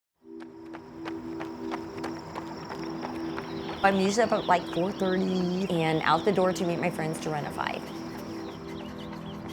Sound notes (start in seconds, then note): 4.0 jogger running